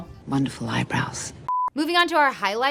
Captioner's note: beep